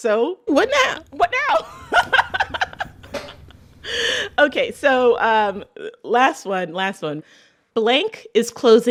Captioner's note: laughter